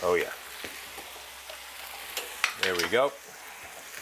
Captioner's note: pan sizzling